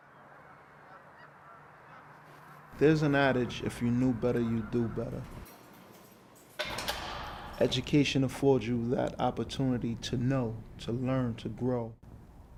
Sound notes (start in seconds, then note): 5.6 sound of metal gate closing